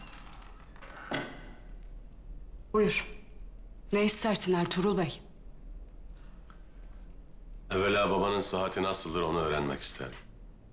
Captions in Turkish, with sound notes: (Kapı kapanma sesi) Buyur, ne istersin Ertuğrul Bey? Evvela babanın sıhhati nasıldır, onu öğrenmek isterim.